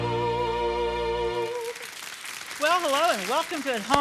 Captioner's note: audience applauds